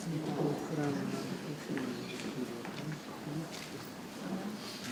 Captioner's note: people chattering softly